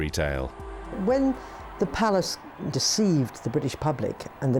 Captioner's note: crowd cheering